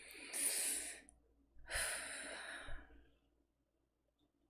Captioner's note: nervous inhale and exhale